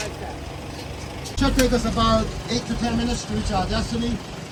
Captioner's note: tour Guide Speaking